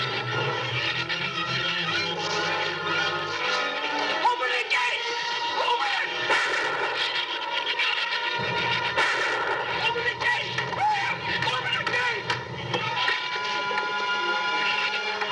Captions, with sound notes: Open the gate! Open it! [GUNSHOT] Open the gate! Open the gate!